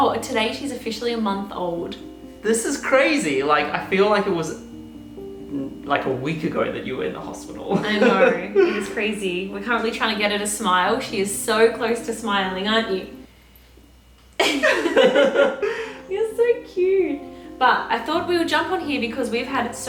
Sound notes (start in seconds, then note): 14.5 both narrators laughing